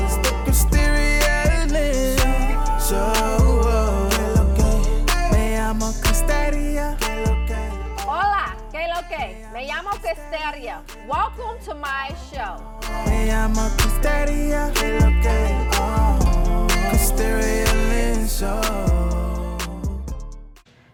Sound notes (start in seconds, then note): 4.7 energetic Latin pop music; 8.3 speaking in foreign language; 12.9 energetic Latin pop music